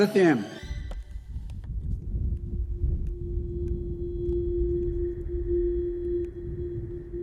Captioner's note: ominous music; wind whistling